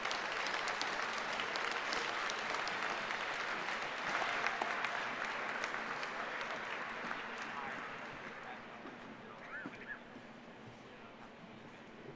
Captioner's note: applause